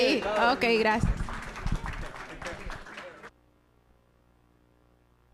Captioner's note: audience applauding